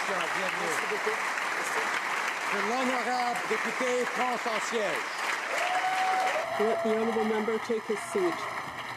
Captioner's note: applause